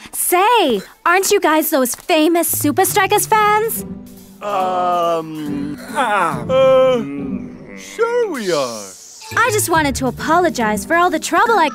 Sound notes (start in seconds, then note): 3.9 group stutters